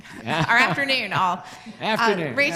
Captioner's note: laughs